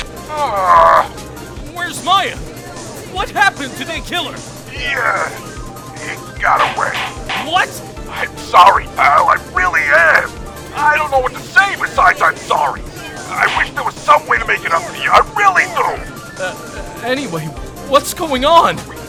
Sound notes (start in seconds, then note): 0.1 gallery chattering; 1.2 sigh; 2.4 gallery chattering; 6.4 gallery chattering, gavel slams!; 7.2 gallery chattering; 15.4 gallery chattering